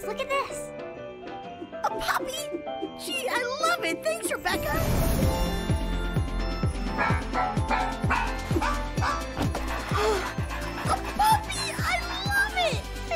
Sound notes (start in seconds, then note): 7.0 dog barking